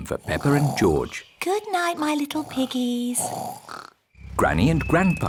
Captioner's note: both snoring